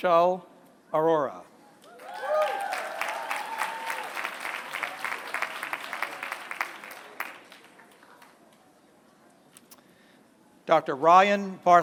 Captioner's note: applause